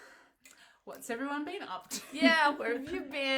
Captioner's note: laughs loudly